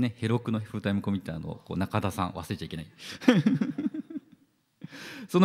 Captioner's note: laughs